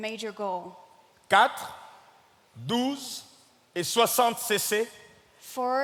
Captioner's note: speaking in French